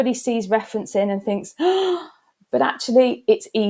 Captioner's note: gasps